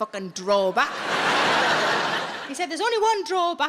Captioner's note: audience laughs